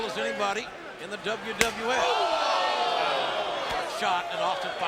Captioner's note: chop thwacks